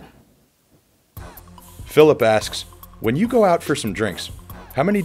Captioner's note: voiceover